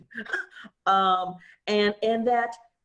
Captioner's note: laughs